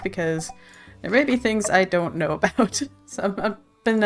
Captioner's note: laughs